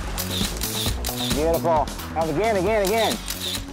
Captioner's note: camera snaps